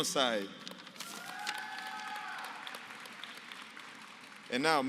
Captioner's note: applause